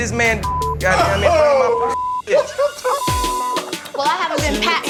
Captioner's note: Kirk laughing